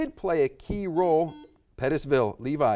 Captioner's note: buzzer buzzes